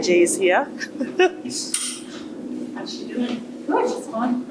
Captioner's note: laughing